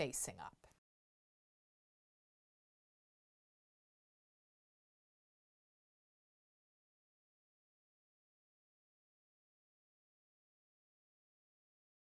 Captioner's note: no Sound Present